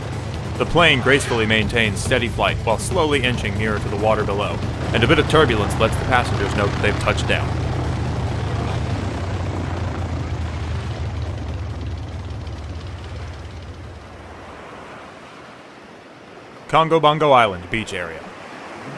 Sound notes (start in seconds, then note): 4.7 plane engine grows louder; 9.4 plane engine winds down; 12.4 ocean waves and beach ambiance